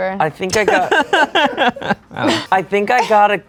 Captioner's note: laughs